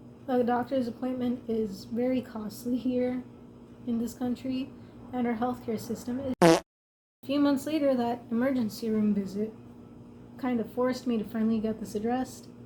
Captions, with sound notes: The doctor's appointment is very costly here, in this country, and our healthcare system is *fart noise* A few months later, that emergency room visit kind of forced me to finally get this addressed,